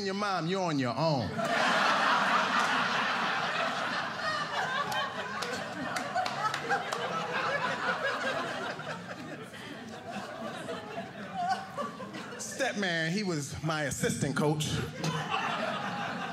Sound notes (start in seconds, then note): 1.3 laughter